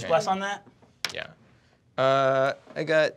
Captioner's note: dice clacking